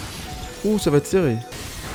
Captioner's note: low HP sound